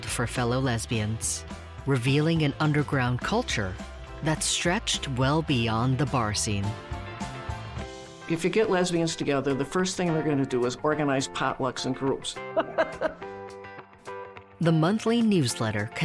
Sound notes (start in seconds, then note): 12.5 chuckles